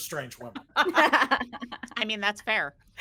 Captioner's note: everyone laughs